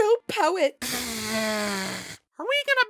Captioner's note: blows nose